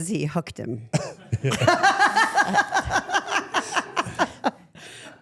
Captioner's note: everyone laughs